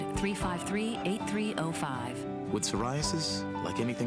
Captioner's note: none